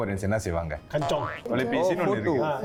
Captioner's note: nervous in Hokkien